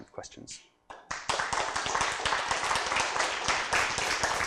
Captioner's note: applause